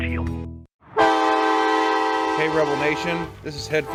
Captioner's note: horn blaring